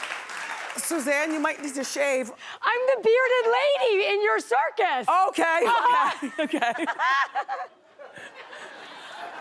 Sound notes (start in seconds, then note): 5.6 laughing